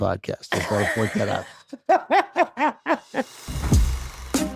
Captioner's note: laughs